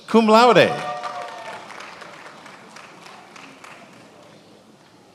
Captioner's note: attendees applauding